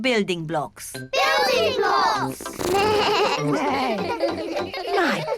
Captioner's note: all laugh